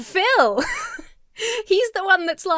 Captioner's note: laughs